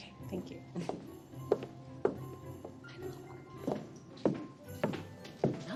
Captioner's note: whispering